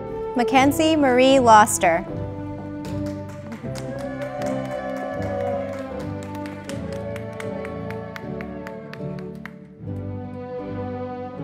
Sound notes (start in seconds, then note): 2.7 audience applauding